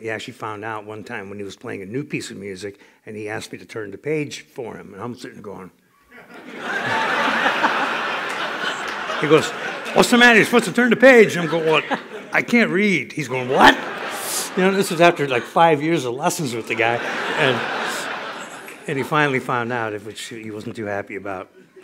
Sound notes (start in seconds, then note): 6.1 laughter